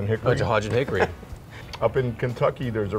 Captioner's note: laughs